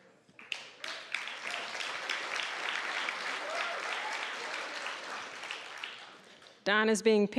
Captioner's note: applause